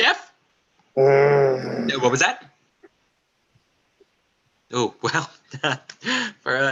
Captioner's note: groans